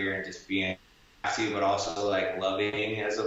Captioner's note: static buzzing